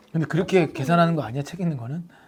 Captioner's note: tone shifts compared to when talking about counseling